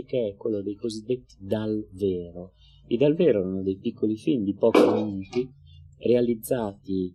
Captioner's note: prosecco bottle pops open in the background